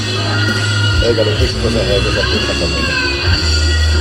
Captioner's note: something in Finnish